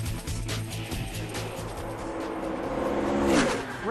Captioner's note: engines racing, over music